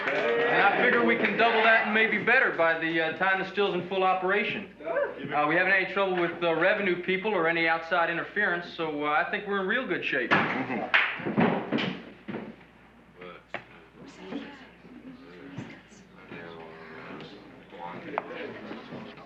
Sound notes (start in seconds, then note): 11.0 slam; 13.9 all murmuring